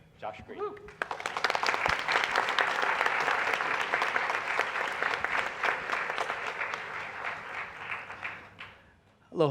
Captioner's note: applause